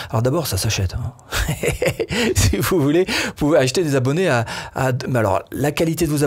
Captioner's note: laughs